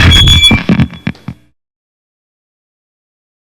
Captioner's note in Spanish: sonido de micrófono siendo arrancado